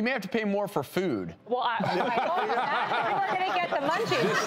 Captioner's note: laughing